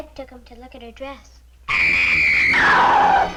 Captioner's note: Meg screaming; suspenseful music